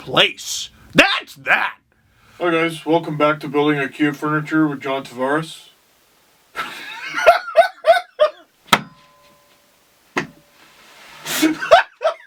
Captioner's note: big laugh